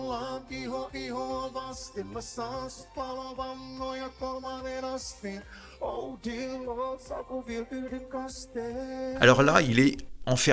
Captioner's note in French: chant